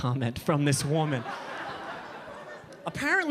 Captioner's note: audience laughing